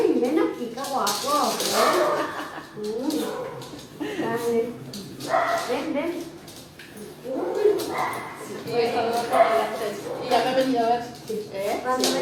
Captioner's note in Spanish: perro lardrando